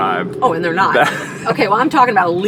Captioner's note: laughter